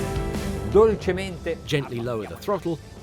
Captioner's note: speaking in a foreign language